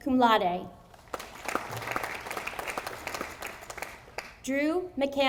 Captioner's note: audience applauding